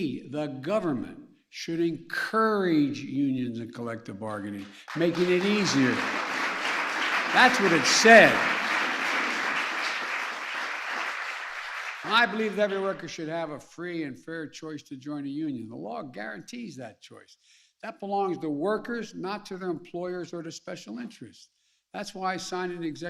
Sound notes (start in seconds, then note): 13.6 applause